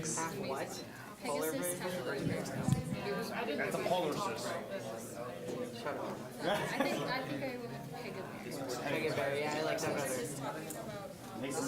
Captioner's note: students discussing